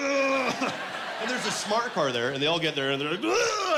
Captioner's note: grunting